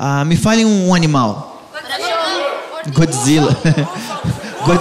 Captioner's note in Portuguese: plateia dá sugestões